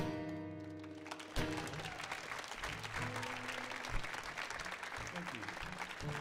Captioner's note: audience whoops and applauds